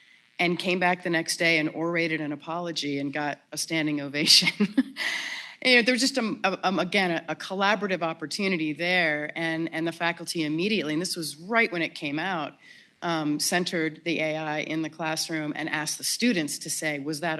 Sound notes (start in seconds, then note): 4.9 laughs